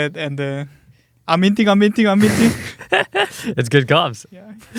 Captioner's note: laughs